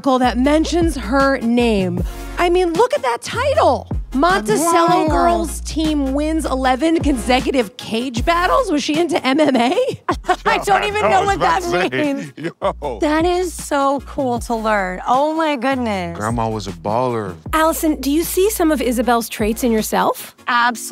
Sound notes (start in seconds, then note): 12.6 laughing